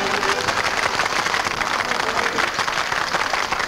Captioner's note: patrons clap